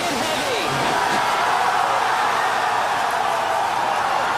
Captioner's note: happy screams